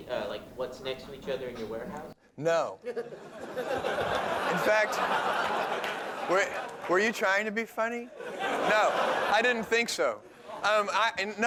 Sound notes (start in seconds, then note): 2.8 laughter; 8.1 laughter